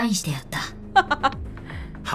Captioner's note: chuckles